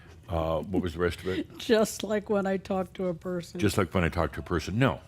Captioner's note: softly chuckling